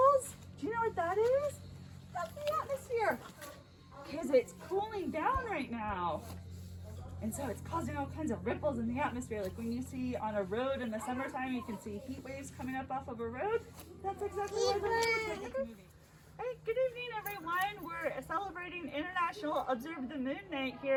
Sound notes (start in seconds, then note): 14.4 indistinct chatter